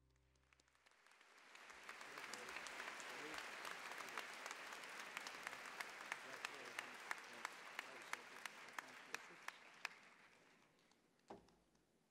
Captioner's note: applause